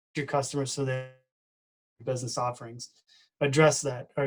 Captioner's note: distorted speaking